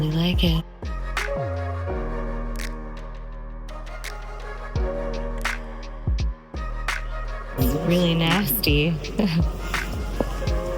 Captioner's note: hoots